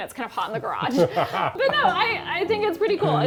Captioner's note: laughs